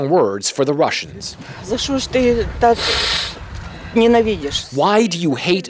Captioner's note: non-english speech